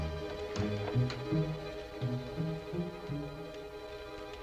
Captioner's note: whispering